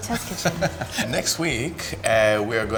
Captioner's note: Yotam laughs